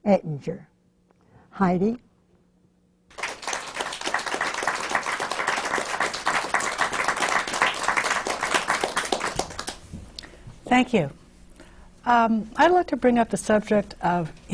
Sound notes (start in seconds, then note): 6.4 applause